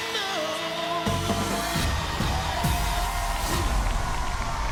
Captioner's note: cheers and applause